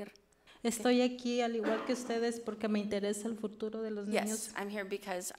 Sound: speaks foreign language

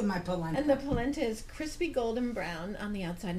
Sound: voiceover

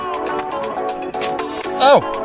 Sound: clicking

